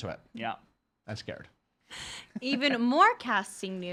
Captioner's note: chuckling